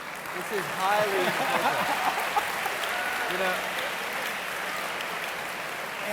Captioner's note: audience clapping; laughs